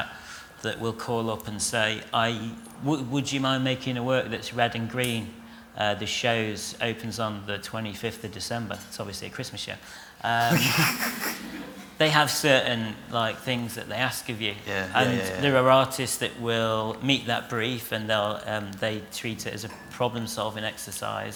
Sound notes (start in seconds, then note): 10.4 laughter